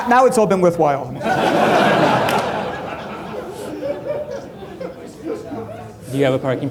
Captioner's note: laughter